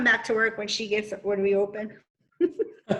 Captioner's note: chuckles